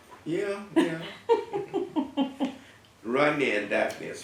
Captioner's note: laugh